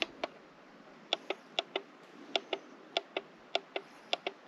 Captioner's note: buttons clicking